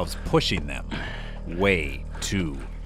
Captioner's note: grunt